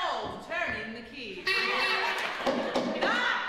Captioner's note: knocking and kazoo honking